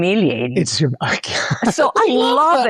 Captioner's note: laughs